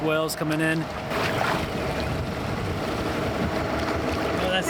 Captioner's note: water splashing